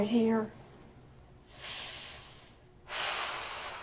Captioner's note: takes a deep breath/exhales